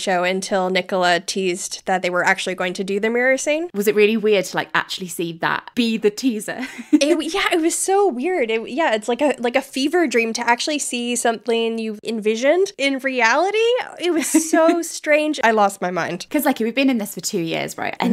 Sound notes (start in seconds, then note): 6.4 laughing